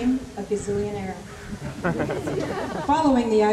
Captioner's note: laughter